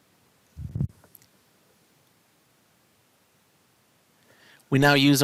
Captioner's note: no Speech Detected